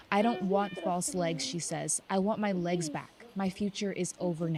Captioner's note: speaking alternate language